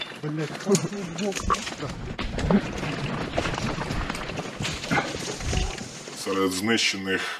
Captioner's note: steps in the woods sound